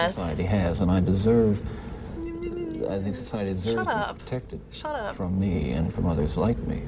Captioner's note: babbles